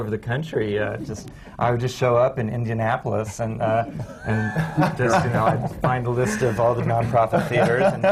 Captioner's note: laughter